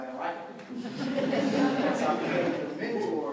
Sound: laughter

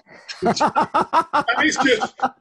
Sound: laughter

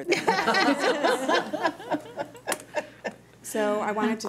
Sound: laughing

